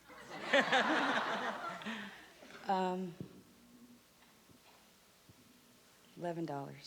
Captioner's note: laughter